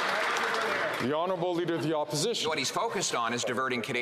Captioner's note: some Applause